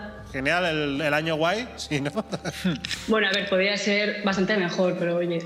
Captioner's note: laughs